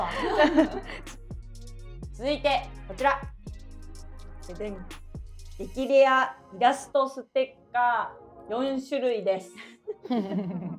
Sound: laughs

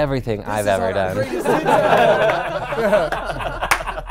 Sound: laughing

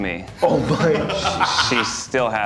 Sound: everyone laughing

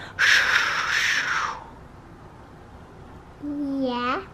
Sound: makes ocean noise

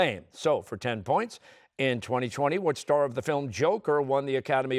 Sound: none

